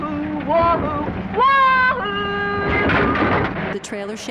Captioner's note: trailer rumbling; tires straining